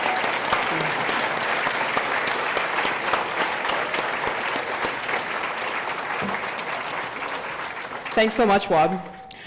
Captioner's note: applause